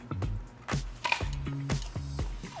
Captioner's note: apple crunches; upbeat music